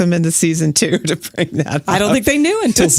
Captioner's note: laughs